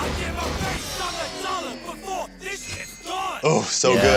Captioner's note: metal chimes